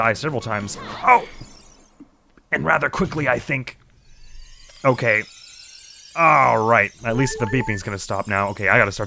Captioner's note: strained